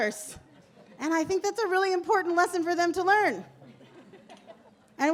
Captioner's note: laughter